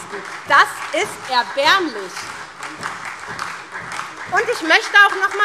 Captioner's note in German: Beifall SPD